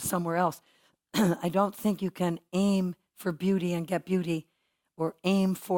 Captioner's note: cough